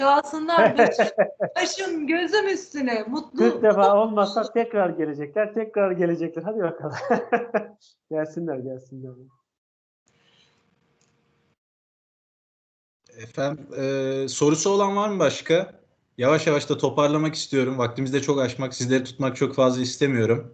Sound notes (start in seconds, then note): 6.4 laughter